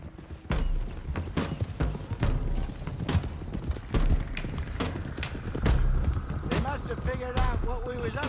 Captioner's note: none